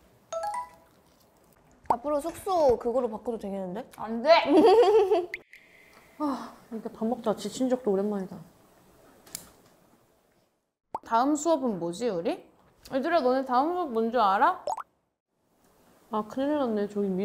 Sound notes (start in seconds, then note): 6.2 sigh